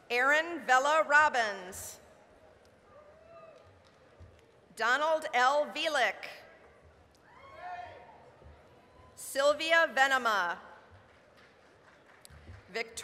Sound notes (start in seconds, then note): 3.5 applause; 7.1 applause, cheering; 11.0 applause